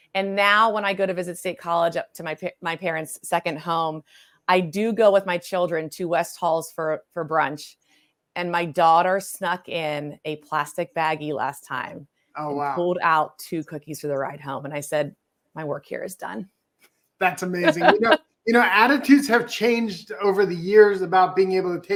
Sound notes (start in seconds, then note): 17.2 laughs